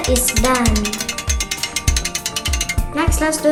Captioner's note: gear cranking sound